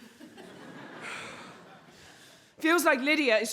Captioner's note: audience laughs